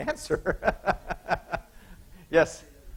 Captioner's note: laughing